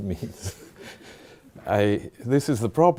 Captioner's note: chuckling